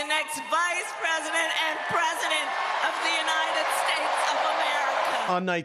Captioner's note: cheering and applause